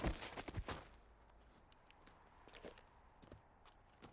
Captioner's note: gunshot bangs; body thuds